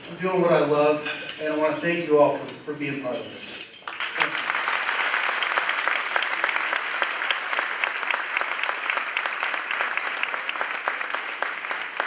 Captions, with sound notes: I’m doing what I love, and I thank you all for being part of this. [Applause]